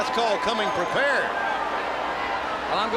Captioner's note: crowd chatter